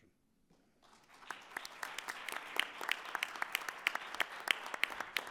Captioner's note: attendees applauding